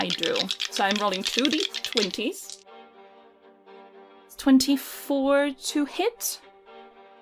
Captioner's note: dice rattling